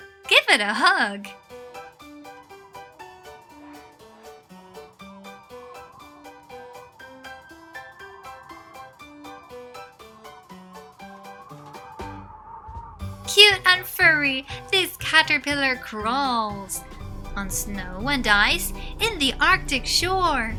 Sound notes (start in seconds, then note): 1.5 playful music; 1.5 wind whistling